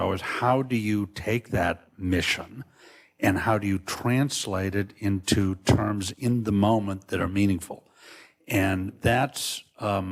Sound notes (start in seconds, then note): none